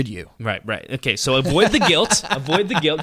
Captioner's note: laughing